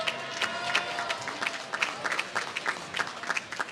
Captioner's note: applause